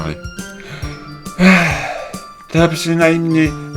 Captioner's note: melodramatic sigh